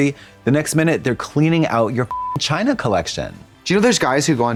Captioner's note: beep